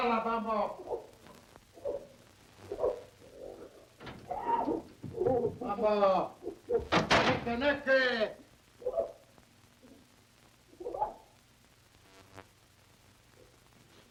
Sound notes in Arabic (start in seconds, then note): 0.1 يتحدث بلغة أجنبية; 2.6 يئن